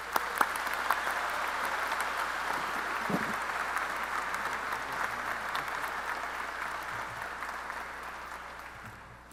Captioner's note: applause